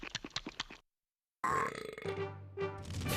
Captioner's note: belching